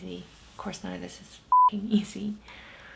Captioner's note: beep